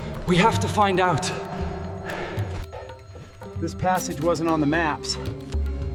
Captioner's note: panting